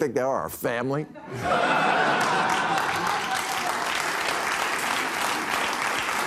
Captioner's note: audience cheering, applauding